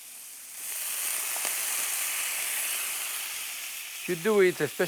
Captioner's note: sizzling